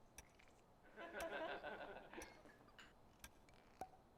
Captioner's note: laughing